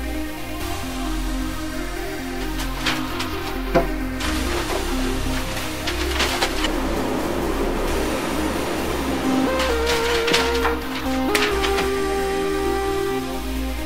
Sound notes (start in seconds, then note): 2.4 papers flutter; 6.8 epic fans blowing